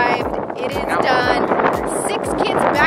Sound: wind blows

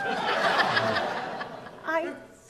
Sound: audience laughs

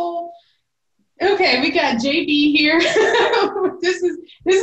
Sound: belly laughing

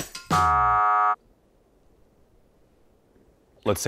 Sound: buzzer

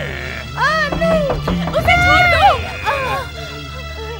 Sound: pounding on door

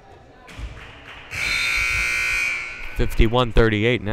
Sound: loud buzzer blaring

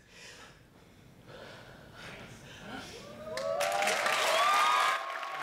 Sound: breathing; audience cheering and clapping

